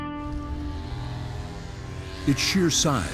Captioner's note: snowmobile buzzing